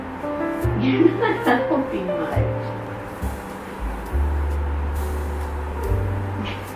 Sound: laughs

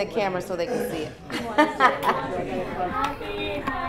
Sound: laughter

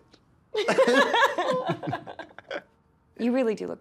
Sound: both laughing

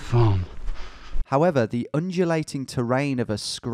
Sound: voiceover

